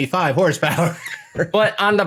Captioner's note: laughs